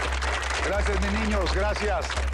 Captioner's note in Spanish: Aplausos